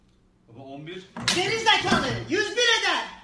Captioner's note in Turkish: şaplak